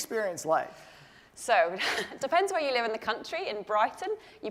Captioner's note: laugh